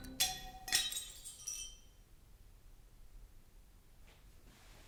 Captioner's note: glass shattering